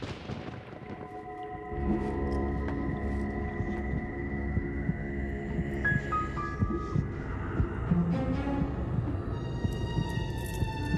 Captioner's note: heart beating